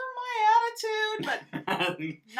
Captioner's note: laughs